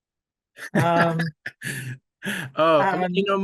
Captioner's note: laughs